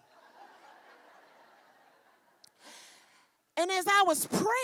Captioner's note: laughing continues